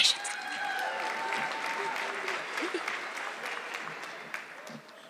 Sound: audience clapping

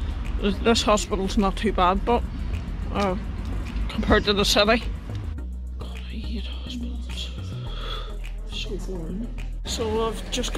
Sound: whispering

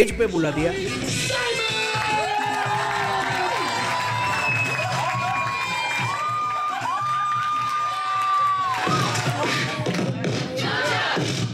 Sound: crowd cheering

